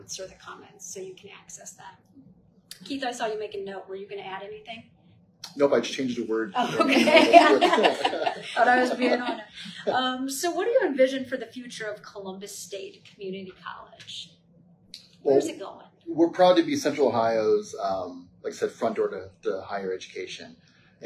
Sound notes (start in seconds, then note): 6.5 laughs